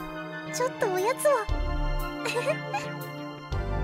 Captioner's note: giggle